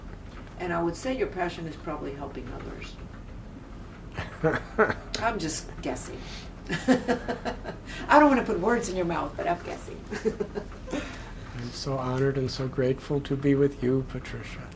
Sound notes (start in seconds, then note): 4.2 laughter; 6.6 laughter